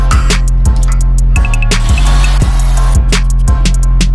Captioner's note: drilling a hole in the steel plate